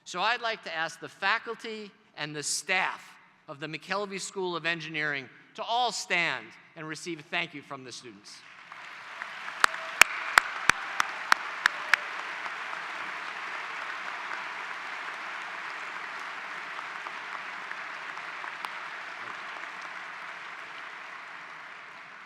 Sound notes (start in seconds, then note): 8.4 applause